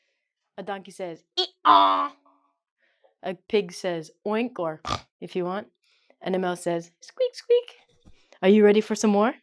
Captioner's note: snorts